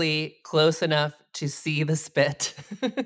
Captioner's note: chuckles